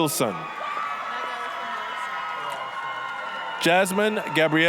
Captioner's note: applause, cheering